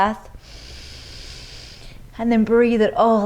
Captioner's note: inhales deeply